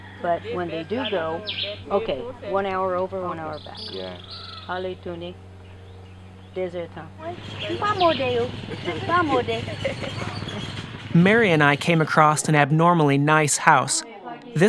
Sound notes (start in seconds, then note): 8.0 speaking in Creole